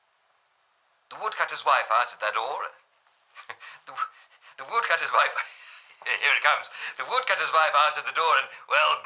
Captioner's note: laughs